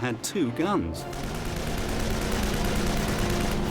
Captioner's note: weapons firing, music playing